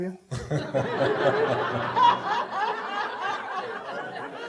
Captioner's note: audience laughing